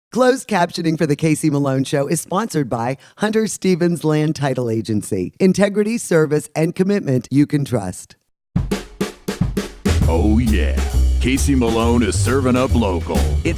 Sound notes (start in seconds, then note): 0.3 voiceover; 8.5 drums playing; 10.2 voiceover